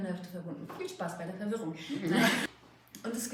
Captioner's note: laughing